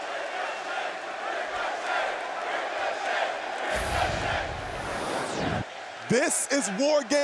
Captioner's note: crowd cheering